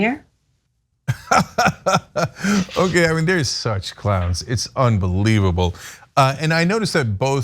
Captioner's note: laugh